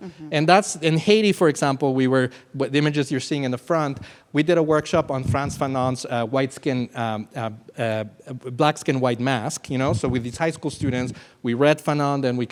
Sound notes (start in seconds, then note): none